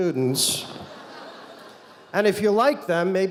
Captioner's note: audience laughing